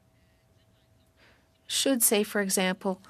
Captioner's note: speaking French